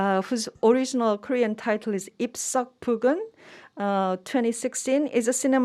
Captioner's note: speaking in Korean